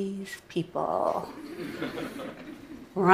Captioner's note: Laughter; 笑聲